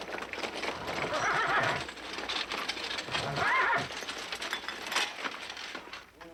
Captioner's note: wagon rattling; horse whinnying